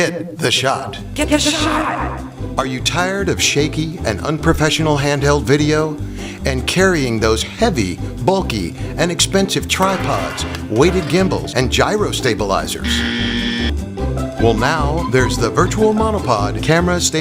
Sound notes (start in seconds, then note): 12.8 buzzer